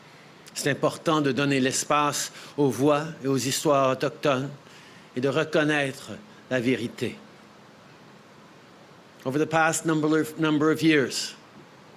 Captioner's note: speaking French